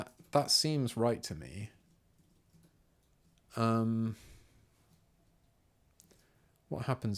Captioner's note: silence